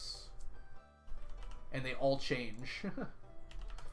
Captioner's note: chuckles